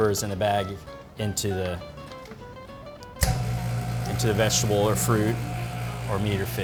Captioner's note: vacuum sealer whirring